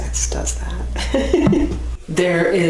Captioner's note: laughs